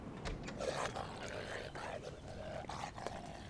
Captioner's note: electronic dog alarm growling